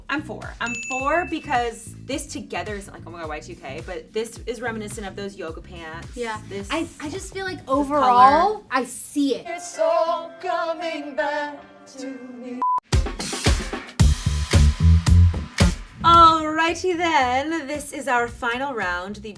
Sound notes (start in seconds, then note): 12.6 beep; 12.8 upbeat music